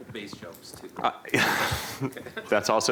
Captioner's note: laughter